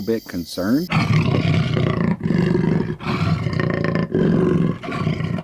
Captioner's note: animal growling